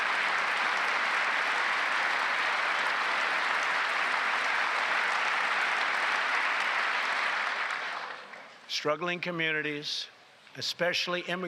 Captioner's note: applause